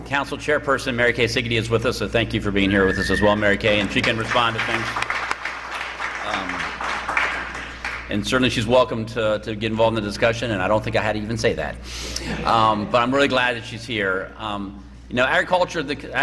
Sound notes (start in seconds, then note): 5.2 applause; 12.0 laughter